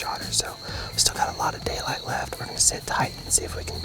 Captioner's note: whispering